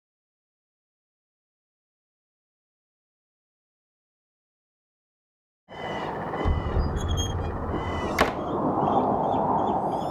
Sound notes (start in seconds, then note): 7.1 crows chatter